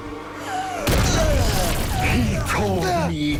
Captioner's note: grunting and groaning